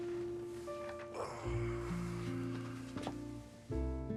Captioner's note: Rob sighs; gentle music